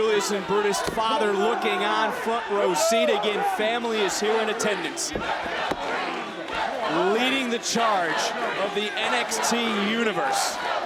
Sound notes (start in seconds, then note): 5.2 audience chattering; 5.2 wrestlers grunting